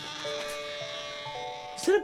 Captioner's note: squeaks